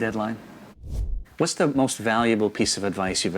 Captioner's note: air whooshing